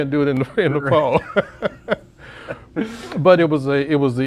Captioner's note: laughs